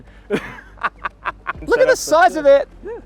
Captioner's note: laughing